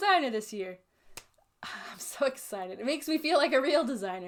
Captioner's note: claps